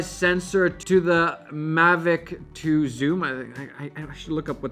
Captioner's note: stuttering